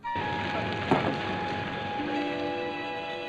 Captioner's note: thump